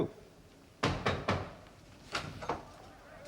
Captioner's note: knocking